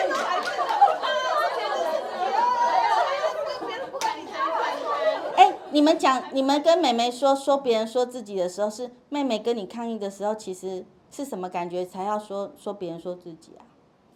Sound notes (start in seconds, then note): 3.1 laughing; 4.1 laugh